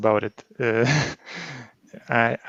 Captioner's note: chuckles